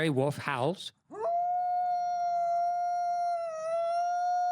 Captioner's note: wolf howl